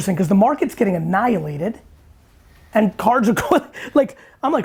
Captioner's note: chuckles